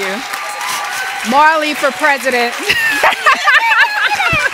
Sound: cheers and applause

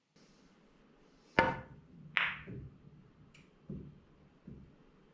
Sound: pool balls tapping

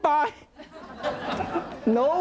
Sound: audience laughing

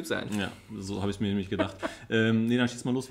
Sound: laughs

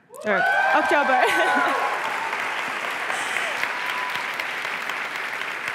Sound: applause and cheering

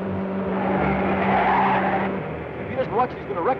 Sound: tires screech

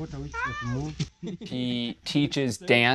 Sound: laughing

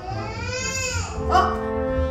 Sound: cries

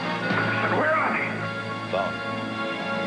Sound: phone ringing

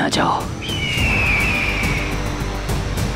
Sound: birds calling

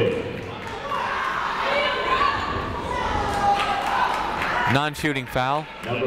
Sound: people shouting in the crowd

